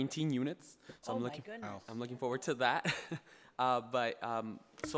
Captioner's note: laughs